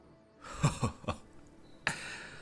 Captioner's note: chuckles